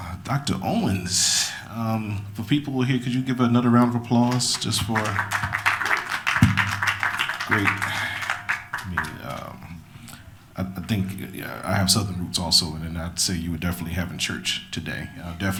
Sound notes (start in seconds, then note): 4.2 applause